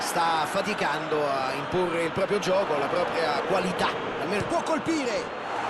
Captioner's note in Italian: Applauso